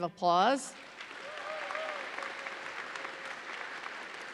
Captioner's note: audience applauds